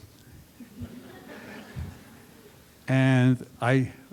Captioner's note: laughter